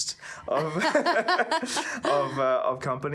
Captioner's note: both laughing